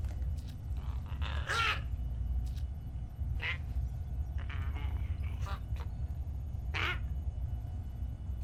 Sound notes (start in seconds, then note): 0.8 Giree squawking